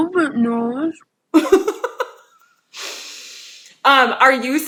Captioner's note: laughs